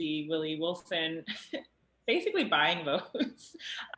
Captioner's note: chuckles